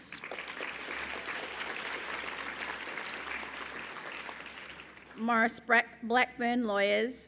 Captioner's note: applause